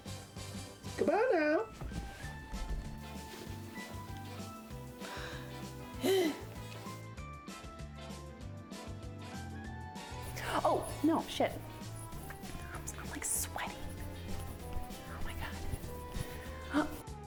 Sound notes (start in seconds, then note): 5.1 sighing